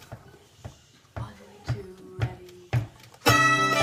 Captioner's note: event: Sound of foot tapping the count of the music